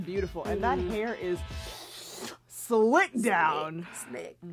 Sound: sucks air in mouth

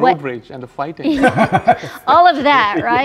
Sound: laughs

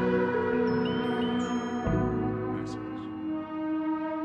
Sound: mobile bleeps - "message"

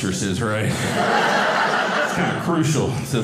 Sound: audience laughing

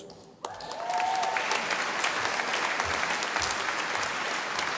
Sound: audience applauding

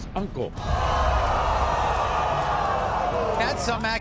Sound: audience boos

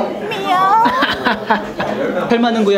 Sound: meow

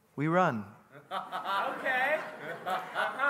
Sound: congregant laughing

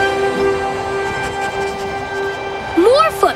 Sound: sniffing

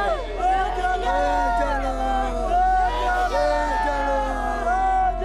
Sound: shouts in foreign language

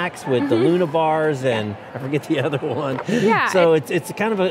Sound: chuckles

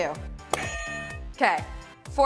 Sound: buzzer rings

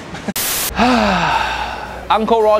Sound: sighing

